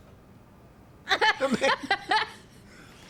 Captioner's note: laughs